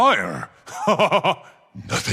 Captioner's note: laughter